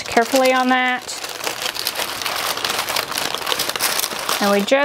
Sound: paper rustling

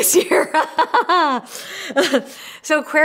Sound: laughs

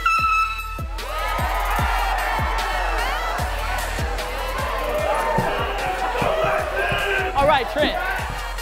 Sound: air horn blown to signify start; crowd cheering

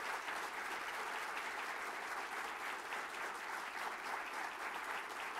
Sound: applause

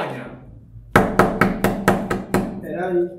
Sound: door knocks

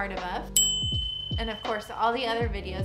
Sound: bell dings

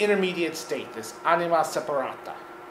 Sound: speaking in foreign language

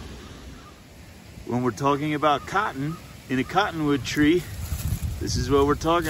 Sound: water rushing, crows cawing

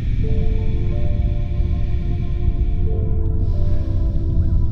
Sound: slow breathing

